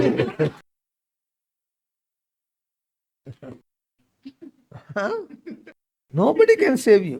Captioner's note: laughs